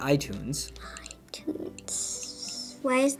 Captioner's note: scrolling; whispering